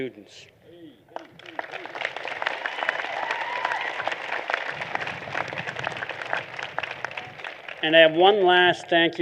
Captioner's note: applause